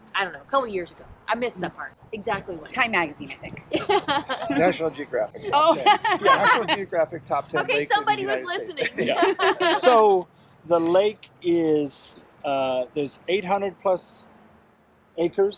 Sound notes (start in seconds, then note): 3.6 laughing; 8.4 everybody laughing